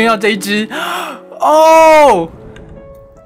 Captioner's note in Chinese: 吸氣